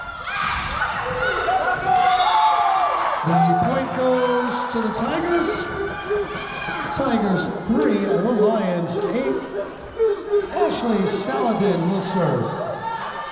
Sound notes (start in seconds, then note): 1.7 crowd cheering; 1.7 whistle blowing